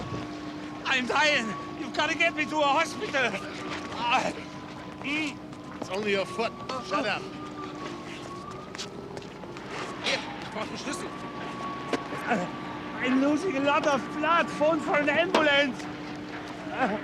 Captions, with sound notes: I'm dying! You've got to get me to a hospital. (Groans) It's only your foot, shut up. Hier, ich brauch' den Schlüssel. I'm losing a lot of blood! Phone for an ambulance.